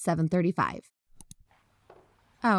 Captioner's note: click